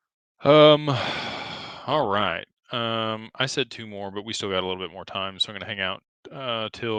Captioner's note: sighs